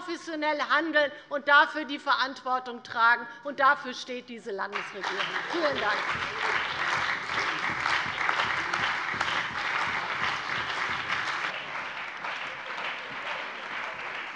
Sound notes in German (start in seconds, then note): 6.9 Anhaltender Beifall bei der CDU und dem BÜNDNIS 90/DIE GRÜNEN